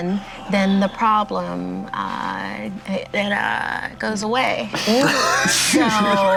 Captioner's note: group laughter